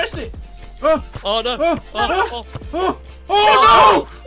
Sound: panicking

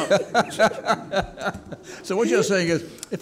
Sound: laughing

